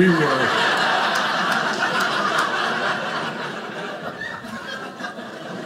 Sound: audience laughing

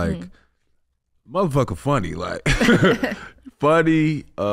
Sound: laughing

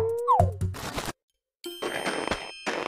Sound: footsteps

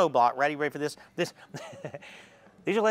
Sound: laughs

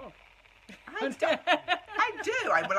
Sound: laughs

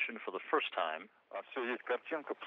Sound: foreign language

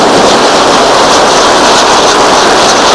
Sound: fireworks sizzling

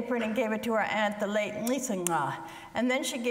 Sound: speaks foreign language

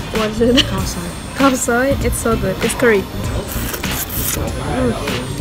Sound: slurp

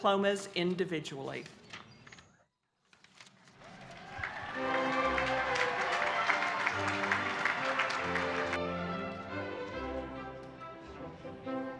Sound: applause and background music

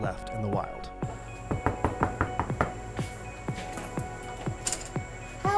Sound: knocking on door

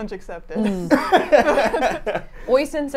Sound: laughs

